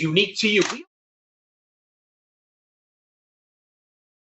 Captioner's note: shutter clicks